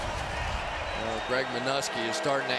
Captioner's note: pa announcement